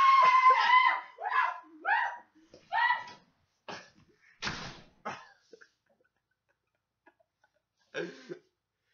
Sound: laughs like an idiot

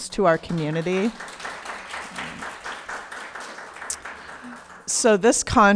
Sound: audience applauding

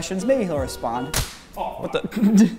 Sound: smacking

